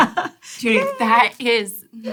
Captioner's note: chuckles